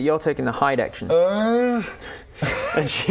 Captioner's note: urgggh